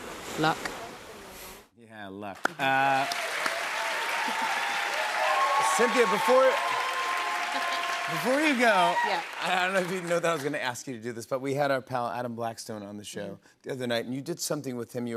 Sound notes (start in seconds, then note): 2.4 cheers and applause